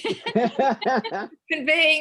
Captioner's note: laughter